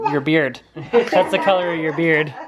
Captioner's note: laughing